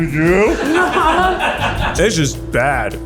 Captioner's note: all laugh